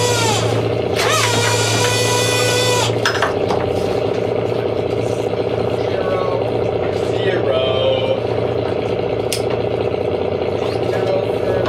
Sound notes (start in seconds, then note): 4.0 motor whirring